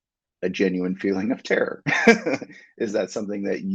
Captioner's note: chuckles